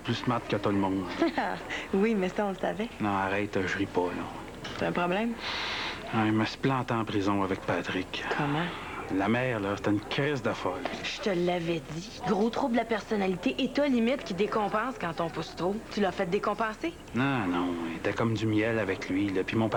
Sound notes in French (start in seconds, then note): 1.0 Rire